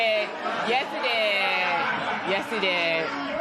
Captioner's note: laughter